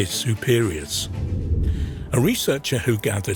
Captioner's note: air whooshing